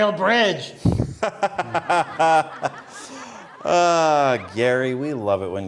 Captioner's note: laughter